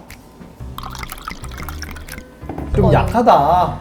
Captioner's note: glug glug glug glug glug